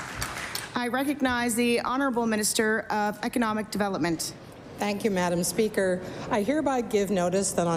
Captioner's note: applause